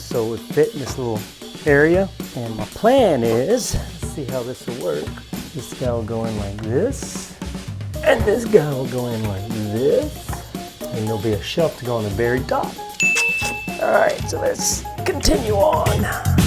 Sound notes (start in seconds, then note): 13.0 chime dings; 16.2 upbeat music